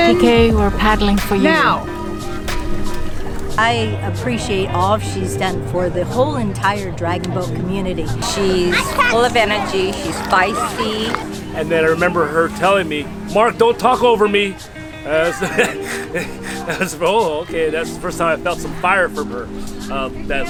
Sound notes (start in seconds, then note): 15.0 laughs